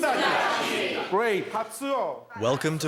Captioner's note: speaking in foreign language